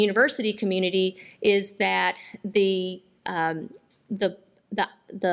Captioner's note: none